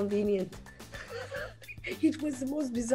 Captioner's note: Salma laughs